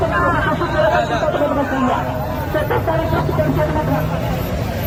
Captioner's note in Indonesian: tertawa